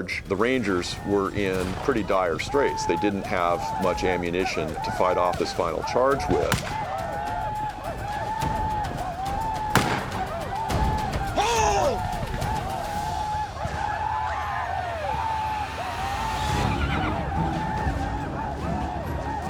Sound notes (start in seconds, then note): 9.7 gunfire; 14.2 commanche yelling